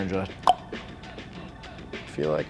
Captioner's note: clicks